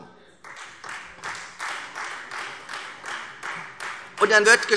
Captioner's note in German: Beifall Freie Demokraten